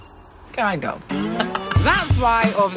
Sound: laughs

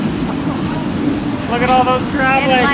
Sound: oil frying

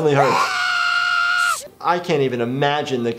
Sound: Butters screaming

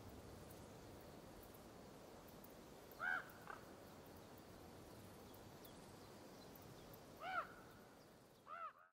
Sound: ravens croaking

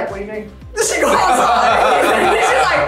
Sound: laughs

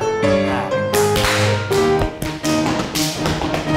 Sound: classical piano music; clapping hands; stomping feet

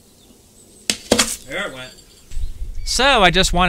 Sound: drywall tearing

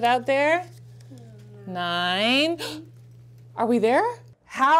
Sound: gasps

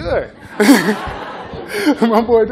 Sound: laughter

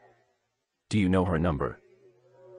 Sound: on phone

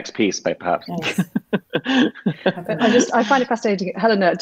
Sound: laughing

